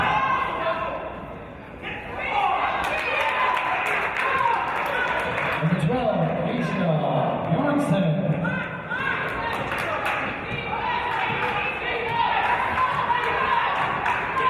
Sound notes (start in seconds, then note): 2.8 applause